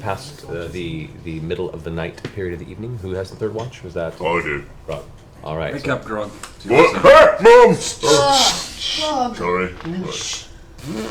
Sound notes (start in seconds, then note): 6.8 screams and flails